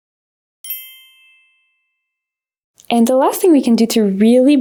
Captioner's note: bells chiming